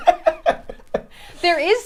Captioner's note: all laughing